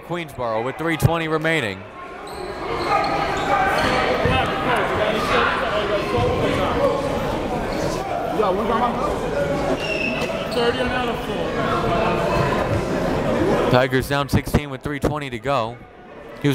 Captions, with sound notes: And timeout Queensborough with 3.20 remaining. (players and coaches chattering) Tigers down 16 with 3.20 to go.